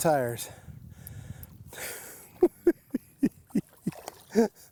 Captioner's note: chuckles